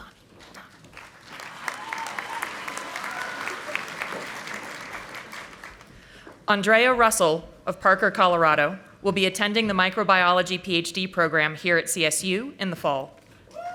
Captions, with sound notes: Hold on. Hold on. (audience applauding) Andrea Russell of Parker, Colorado will be attending the microbiology PhD program here at CSU in the fall.